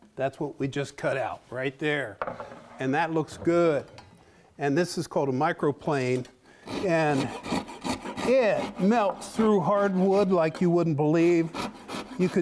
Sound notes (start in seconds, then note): 7.0 scraping